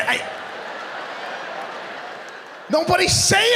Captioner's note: audience laughing